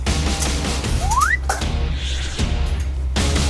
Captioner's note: chomp